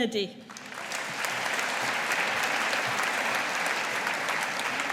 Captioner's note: audience applauding